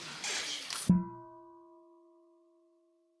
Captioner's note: half bell